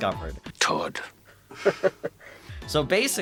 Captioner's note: Godd Howard chuckles